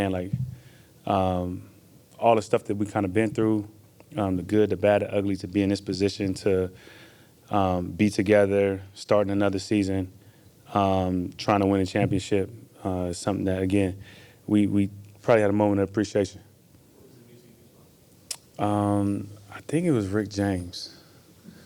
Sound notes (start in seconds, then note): 18.2 tongue clicks